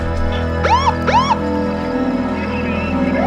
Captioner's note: siren wails